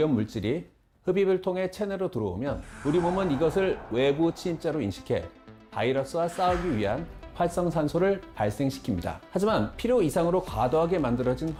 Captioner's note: voiceover